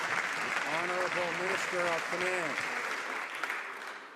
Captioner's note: some Applause